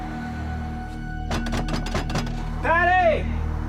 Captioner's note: knocking